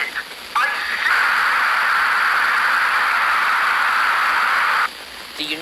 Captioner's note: audio cuts to static